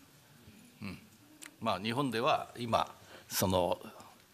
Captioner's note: speaking japanese